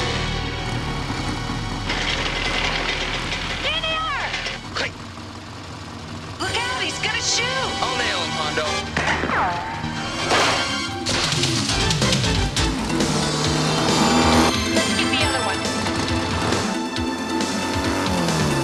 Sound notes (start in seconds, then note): 8.9 guns firing; 11.7 dynamic music; 13.2 motorbikes rumbling